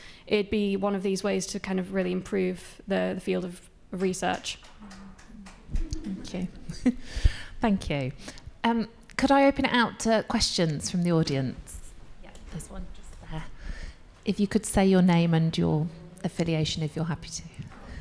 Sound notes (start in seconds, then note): 4.6 audience applauding; 5.8 chuckles